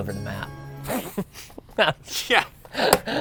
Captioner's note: laughs